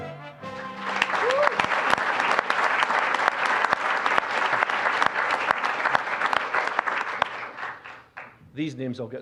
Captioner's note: applause